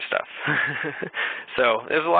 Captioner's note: chuckling